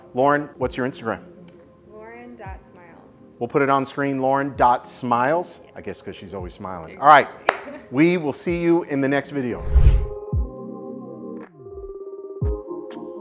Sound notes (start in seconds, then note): 7.1 laughing; 10.3 chilled music